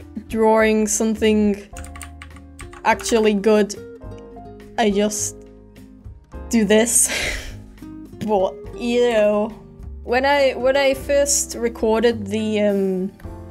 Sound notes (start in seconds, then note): 7.0 cringe laugh